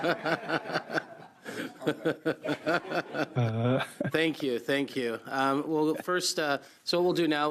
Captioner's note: laughter